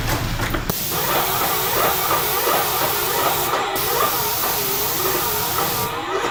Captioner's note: sprayer whirring and spraying